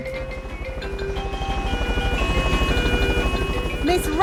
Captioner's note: emergency siren sounding